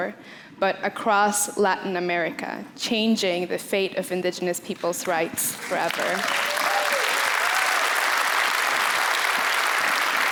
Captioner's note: applause